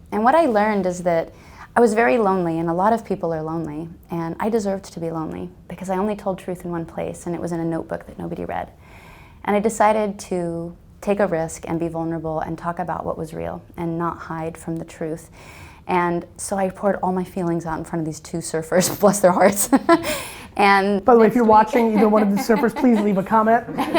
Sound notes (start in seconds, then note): 21.4 laughs; 23.7 group laughter